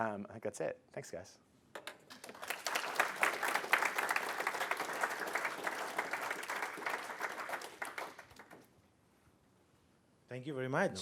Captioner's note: applause